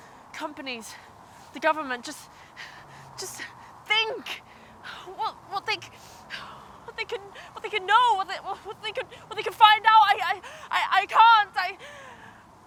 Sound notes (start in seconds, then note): 10.1 stuttering